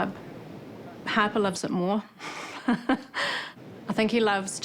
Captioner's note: chuckles